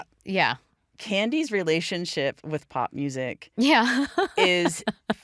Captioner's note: laughs